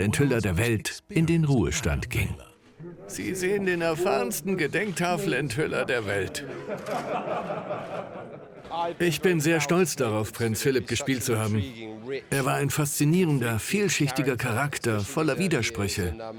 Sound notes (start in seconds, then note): 6.9 audience laughing